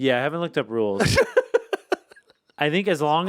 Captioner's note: Anthony laughs